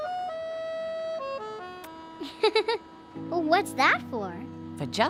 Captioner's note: giggling